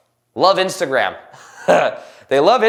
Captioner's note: laughs